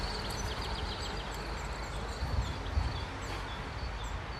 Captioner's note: chirping birds